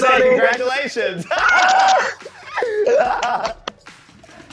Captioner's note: both laughing; upbeat music